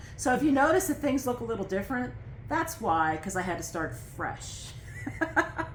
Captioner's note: laughter